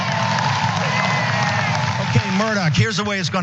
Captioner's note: applause